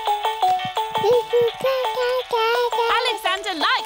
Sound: mobile playing loud music; cooing

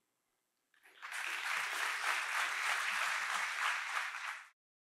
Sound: audience applauding

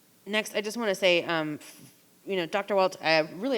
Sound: none

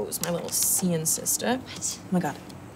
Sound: whispering

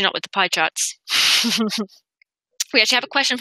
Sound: laughs

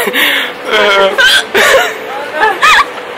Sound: hiccups again; laughing uncontrollably

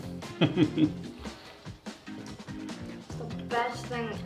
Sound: laughing

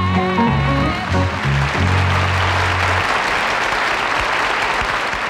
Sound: audience applauds

